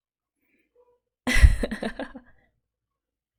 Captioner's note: laughs